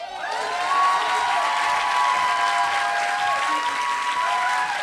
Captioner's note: applause